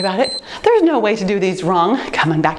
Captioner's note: timer beeps